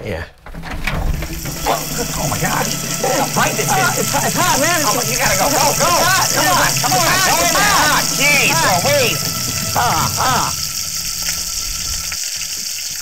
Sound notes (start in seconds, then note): 0.4 rattling; 2.9 suspenseful music; 6.1 screaming